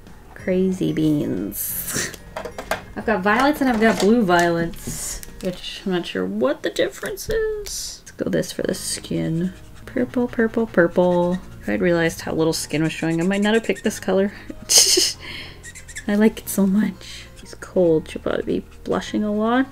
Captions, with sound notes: Crazy beans. I've got violets and I've got blue violets. I'm just not sure what the difference is. Go this for the skin. Purple, purple, purple. If I had realized how little skin was showing, I might not have picked this color. [Laughs] I like it so much If she's cold, she should probably be blushing a lot.